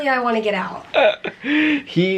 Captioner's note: chuckling